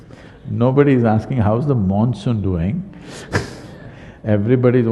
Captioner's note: laughs